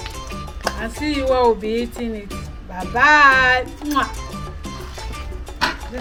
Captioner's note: kisses